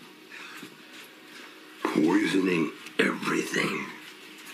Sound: distorted

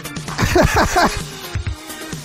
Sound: laughter

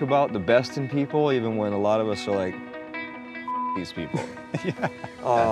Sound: beep

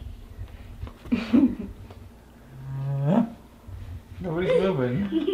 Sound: laughs; dad grunts

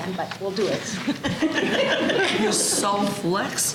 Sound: laughter

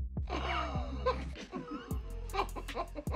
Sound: laughs

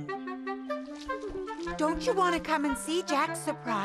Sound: humming

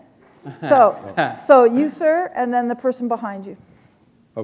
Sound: chuckle

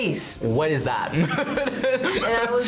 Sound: laughs

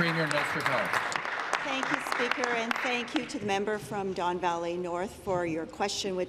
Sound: applause

